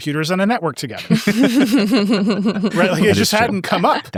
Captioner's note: everyone laughs